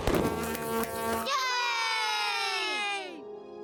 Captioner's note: cheering